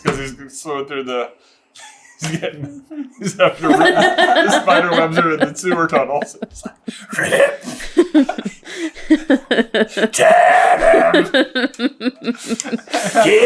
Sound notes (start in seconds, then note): 6.3 basilisk voice; 8.1 laughter; 9.9 basilisk voice; 11.4 laughter